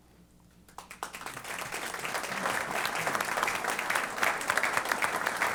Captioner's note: applause